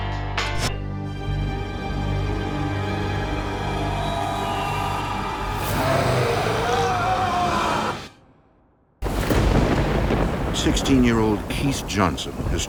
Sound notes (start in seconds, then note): 5.5 growling; 6.4 Keith screaming; 9.3 theme music